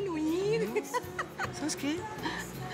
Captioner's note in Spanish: Risas